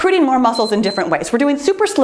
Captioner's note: timer beeps